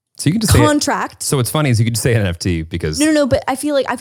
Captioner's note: laughs